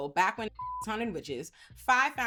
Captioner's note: beep